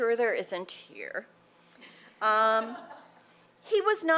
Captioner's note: laughter